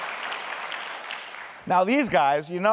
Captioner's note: applause